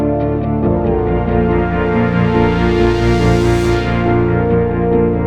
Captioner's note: blaster shooting